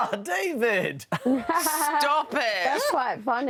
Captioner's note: laughs